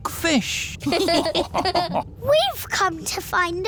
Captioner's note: all laughing